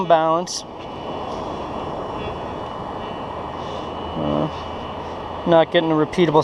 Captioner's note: detector buzzing